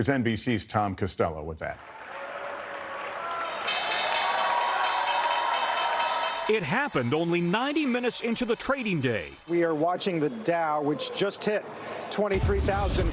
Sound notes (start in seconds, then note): 7.2 cheers; 8.2 bell